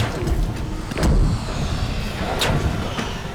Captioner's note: thud sound